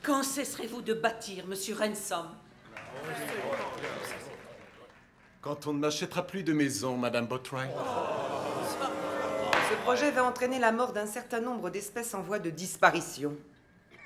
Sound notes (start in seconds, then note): 2.6 crowd cheering; 7.6 crowd booing; 7.7 gavel banging